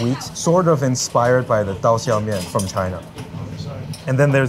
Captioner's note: speaks foreign language